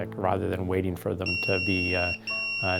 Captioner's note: beeper goes off